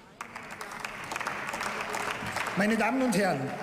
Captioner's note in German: Beifall